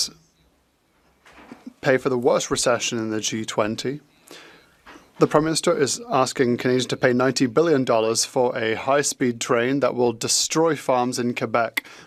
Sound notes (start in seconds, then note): 5.1 speaking French